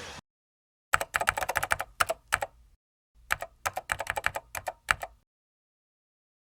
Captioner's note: keyboard sound